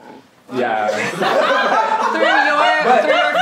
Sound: everyone laughs

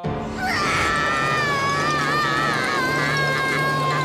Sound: screaming

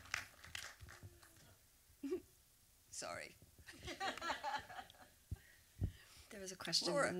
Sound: applause; laughs; laughter

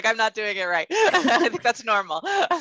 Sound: laughing

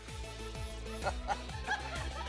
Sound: laughing

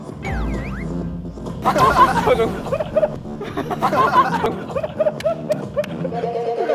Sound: laughing out loud

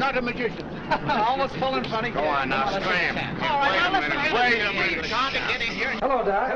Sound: reporters complaining loudly

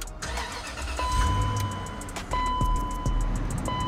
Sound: engine revving

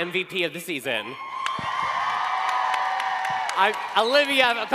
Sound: cheering

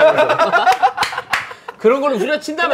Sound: laughing

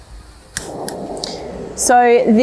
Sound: whoosh sound; click sound

